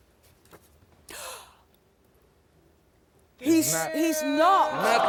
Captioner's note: gasps